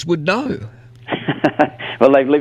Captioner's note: laughs